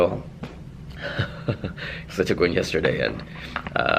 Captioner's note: laughs